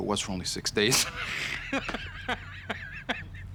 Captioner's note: laughing